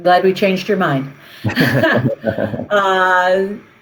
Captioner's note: chuckles